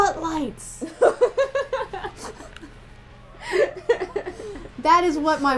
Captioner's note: laughter